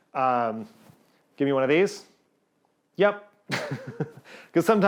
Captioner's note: chuckles